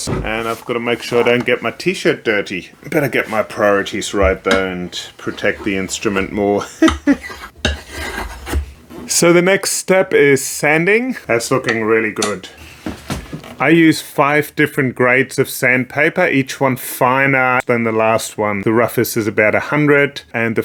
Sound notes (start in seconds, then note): 6.6 laughs